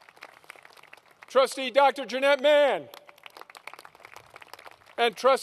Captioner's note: applause